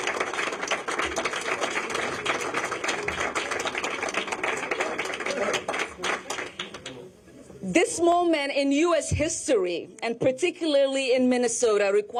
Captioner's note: applause